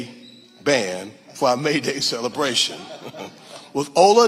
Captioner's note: laughing